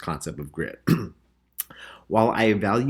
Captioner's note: clears throat